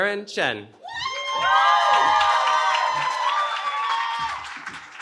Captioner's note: cheering